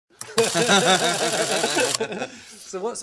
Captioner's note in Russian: типа смех